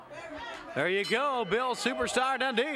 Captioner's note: bell rings